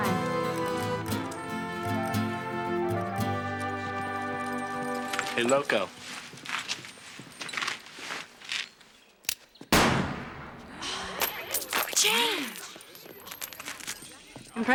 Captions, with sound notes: Bye. Hey, Loco. [gunshot] [gasping] Change.